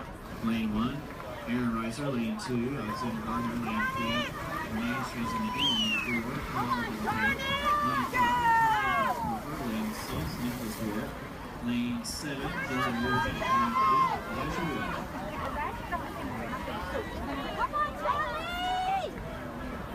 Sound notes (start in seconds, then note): 0.0 people chattering; 5.6 woman whistles; 12.3 announcer drowned out by crowd cheering